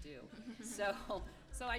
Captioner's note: laughter